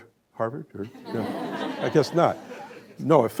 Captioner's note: laughter